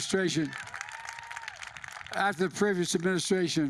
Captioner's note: applause